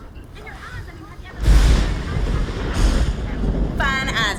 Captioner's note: thunder & lightning